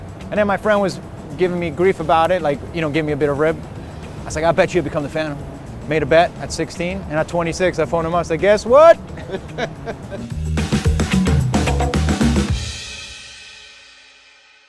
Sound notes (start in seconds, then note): 9.0 laughing; 10.3 upbeat music